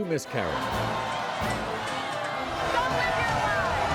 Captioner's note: audience yelling